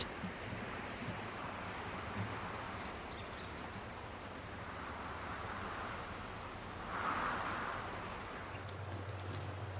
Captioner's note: light wind blowing; birds chirping and singing; bird chirping